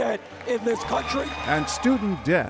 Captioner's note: applauds